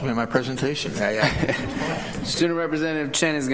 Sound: laughter

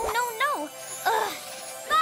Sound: annoyed grunt

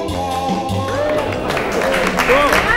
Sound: applause

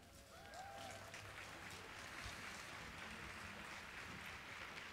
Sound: students cheering

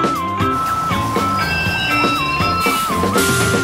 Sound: bus brakes squeal

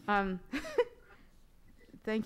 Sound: laughs

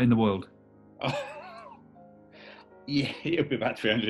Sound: chuckling

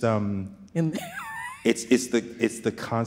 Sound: chuckles

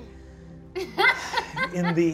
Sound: laughs

